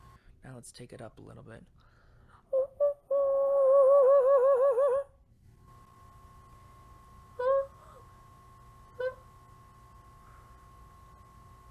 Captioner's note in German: summend